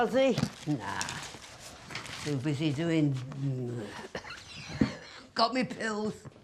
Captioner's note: coughs